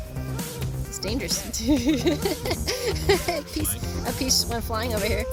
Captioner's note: laughing